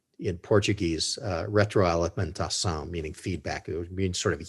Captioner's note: speaks in foreign language